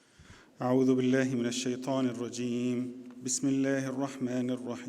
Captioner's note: speaks Arabic